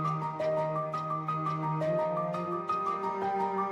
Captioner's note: none